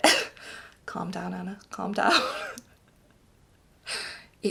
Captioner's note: laughs